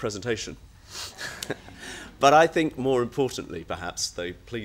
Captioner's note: laughs